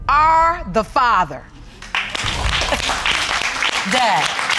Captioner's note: audience applauding